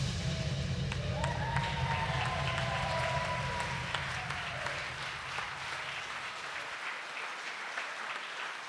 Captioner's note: claps and cheers